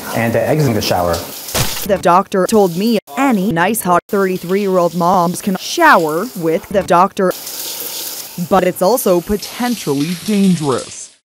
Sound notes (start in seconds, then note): 1.5 splat